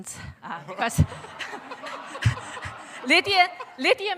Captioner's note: laughter